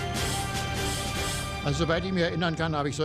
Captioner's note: speaking german